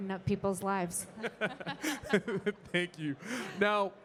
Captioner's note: panel chuckling